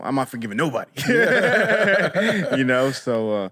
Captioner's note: laughter